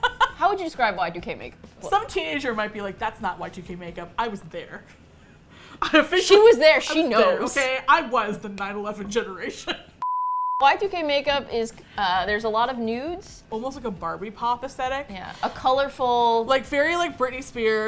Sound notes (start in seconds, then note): 10.1 laughs